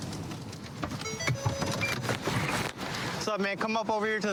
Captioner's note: car notification bell dings